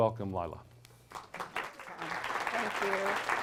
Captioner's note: applause